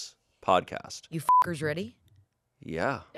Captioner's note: beep